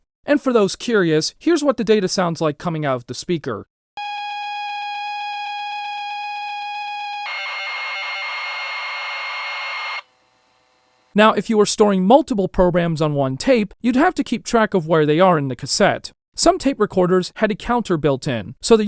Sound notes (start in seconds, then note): 4.0 high-pitched noise; 7.2 more high-pitched noises; 10.0 brief silence